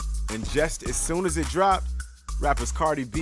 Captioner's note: voiceover